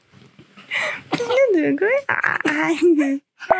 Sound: cough

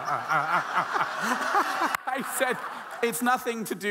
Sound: audience laughing

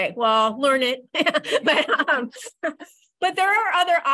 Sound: laughs

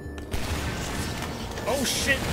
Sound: large chain of explosions

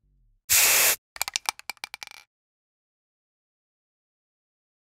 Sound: spray can shaking; paint spatters

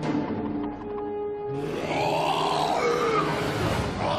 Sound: roaring

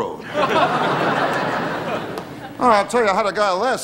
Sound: audience laughing

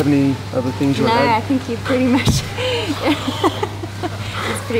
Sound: laughing

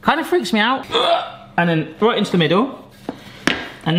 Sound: grunts

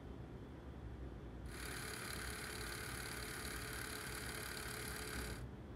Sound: film reel gently running

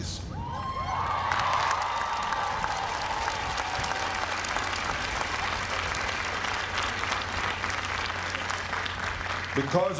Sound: applause

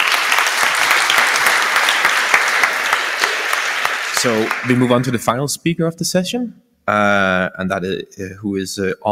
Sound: applause

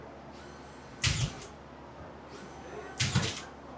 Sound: nail gun sounds

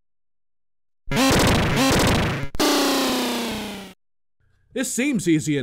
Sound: horrible SFX, again

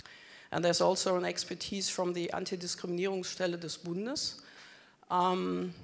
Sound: speaking German

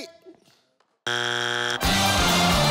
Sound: buzzer buzzes; dramatic music

